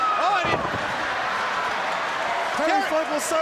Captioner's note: crowd cheering